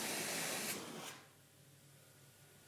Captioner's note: hissing ends